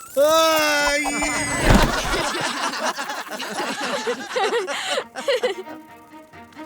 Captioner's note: laughing